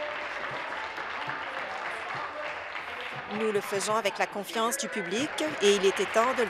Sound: some Applause

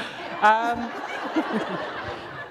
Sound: laughter

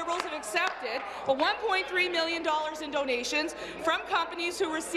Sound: applause

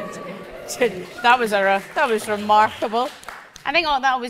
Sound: audience woo and clap

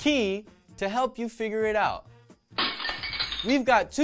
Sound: crash

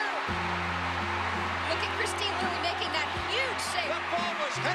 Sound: cheering

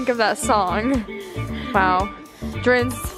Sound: laughing

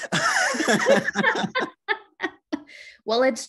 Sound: both laugh

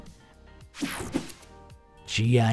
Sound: light swishing

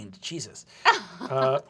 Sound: laughs

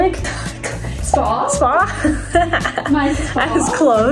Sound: chuckles

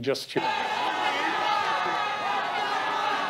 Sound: cacophony of voices

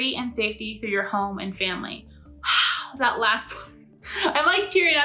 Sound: laughs

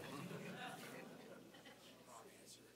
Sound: congregation laughing

